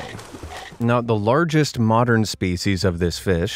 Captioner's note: water splashing